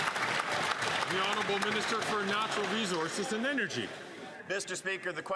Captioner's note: cheering and Applause